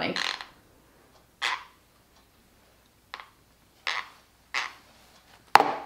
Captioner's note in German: knirscht mit den Zähnen; Tasse klopft auf den Tisch